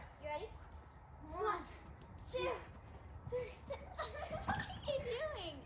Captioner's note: laughing